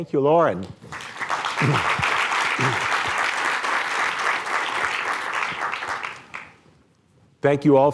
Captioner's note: applause